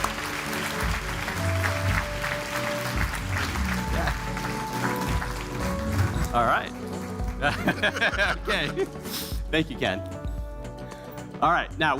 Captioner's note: applause